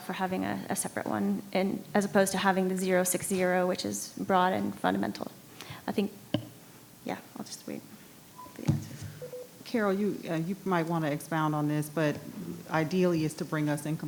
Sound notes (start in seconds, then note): 8.3 microphone beeping